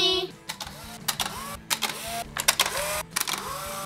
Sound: camera clicks

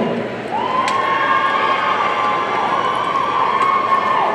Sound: audience cheering

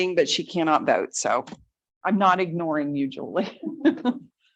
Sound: chuckles

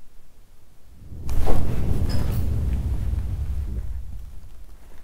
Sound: eerie whooshing

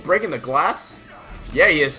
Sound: smash

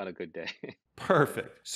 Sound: laughing

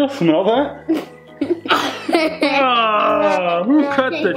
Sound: laughing

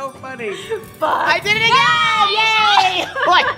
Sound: laughter

